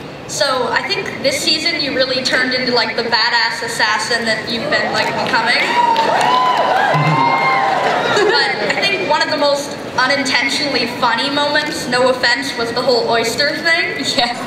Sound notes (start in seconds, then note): 4.8 cheering